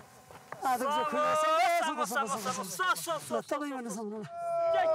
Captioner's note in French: Audio parlé en népalais